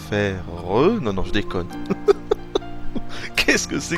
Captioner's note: laughs